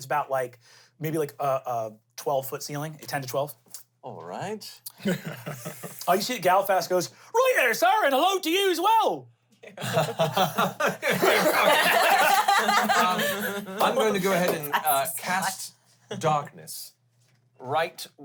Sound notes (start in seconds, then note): 9.8 everyone chuckles; 11.9 everyone laughs